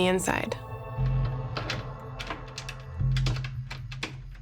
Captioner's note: rattling